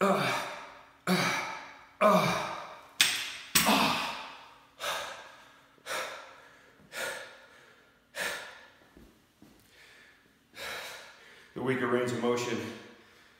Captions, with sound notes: (grunting) (grunting) (breathing heavily) (breathing heavily) the weaker range of motion,